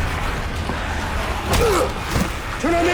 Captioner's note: dramatic music; grunting